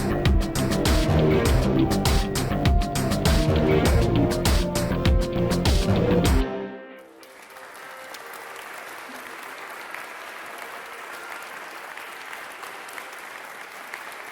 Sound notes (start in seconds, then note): 0.0 upbeat music slows; 6.6 upbeat music drops off; 7.0 audience applauding